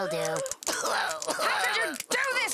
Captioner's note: ching